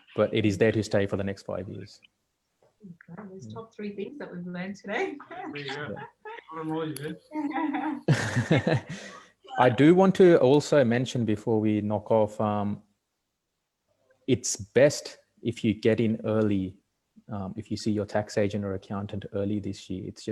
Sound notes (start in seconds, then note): 5.2 laughing